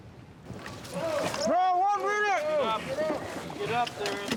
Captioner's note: trainees shouting